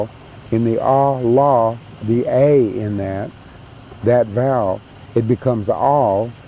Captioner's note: speaking cherokee